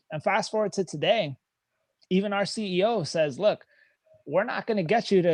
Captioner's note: none